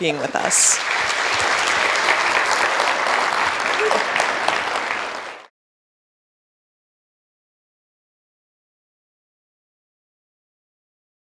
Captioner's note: applause